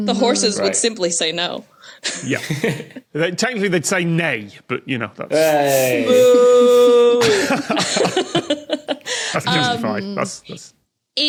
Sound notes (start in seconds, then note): 2.7 chuckles; 7.1 group laughing